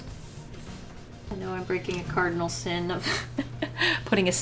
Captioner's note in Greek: Γέλια